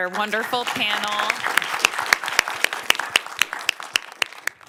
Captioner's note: applause